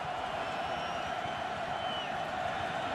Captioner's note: crowd cheering